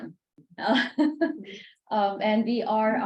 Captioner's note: laughs